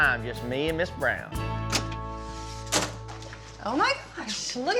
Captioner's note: door opens